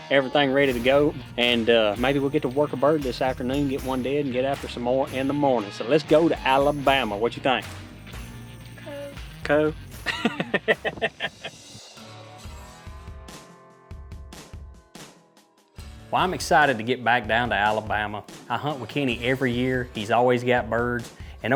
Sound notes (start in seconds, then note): 10.0 laughing; 12.5 upbeat music